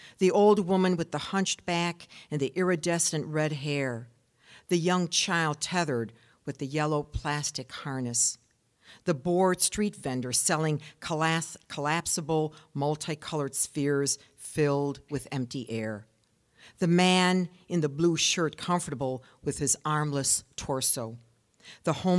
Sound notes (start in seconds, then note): none